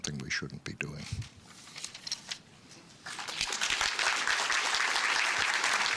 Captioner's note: applause